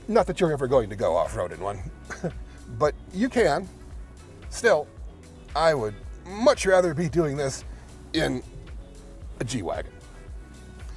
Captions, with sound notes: Not that you're ever going to go off-road in one, (chuckling) but you can. Still, I would much rather be doing this in a G-Wagon.